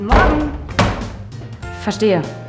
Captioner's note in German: klatsch!